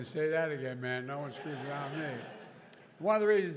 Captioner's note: laughter